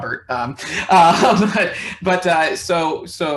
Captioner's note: laughing